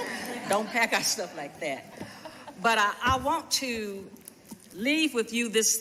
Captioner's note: laughter